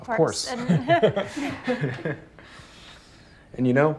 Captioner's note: Claire and Ben laughing